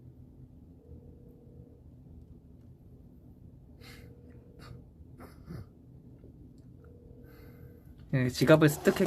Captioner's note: calling